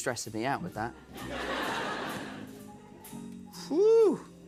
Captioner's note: laughter